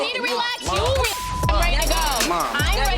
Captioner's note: beeping